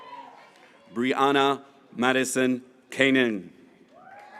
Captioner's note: graduates cheering